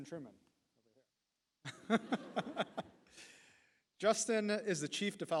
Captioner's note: laughs